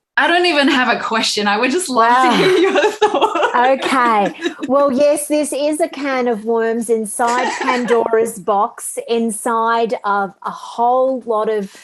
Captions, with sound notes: I don't even have a question. I would just like to hear your thoughts (laughs). OK, well, yes, this is a can of worms inside Pandora's box, inside of a whole lot of